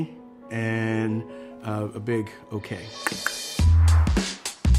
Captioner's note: clicks tongue; hip rhythmic music